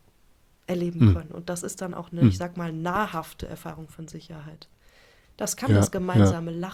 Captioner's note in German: räuspern; räuspern